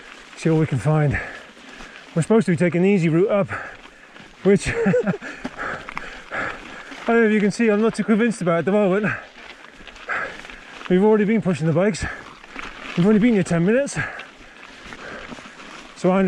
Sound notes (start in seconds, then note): 10.4 laughs